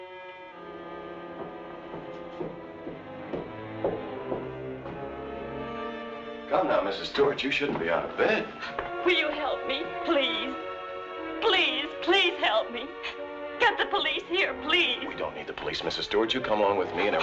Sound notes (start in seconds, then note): 0.6 footsteps thumping; 1.9 suspenseful music continues